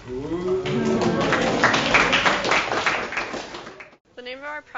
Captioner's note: applause